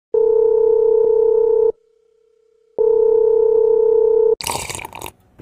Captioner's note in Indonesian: nada dering hp